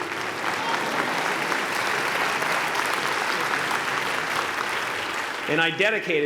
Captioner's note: applause